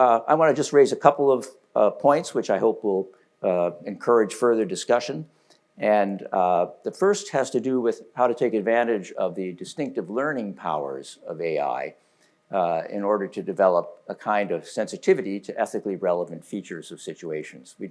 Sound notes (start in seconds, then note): none